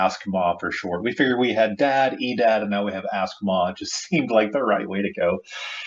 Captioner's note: laughs